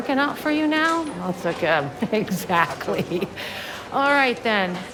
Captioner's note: chuckles